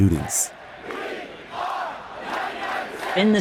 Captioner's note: soundbite of archived recording; chanting